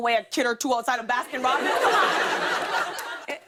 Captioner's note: laughter